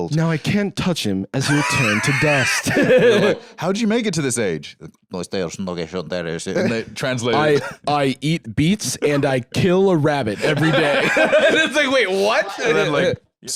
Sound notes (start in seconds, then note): 5.4 elderly gibberish